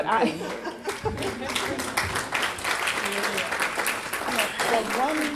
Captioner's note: laughter and Applause